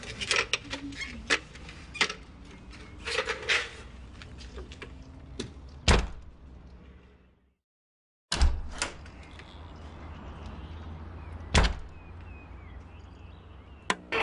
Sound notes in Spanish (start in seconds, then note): 5.8 Sonido al cerrar la puerta; 8.3 Sonido al abrir la puerta